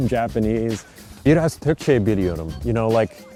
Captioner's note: speaking Turkish